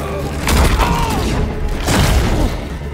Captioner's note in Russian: Кряхтит; Крик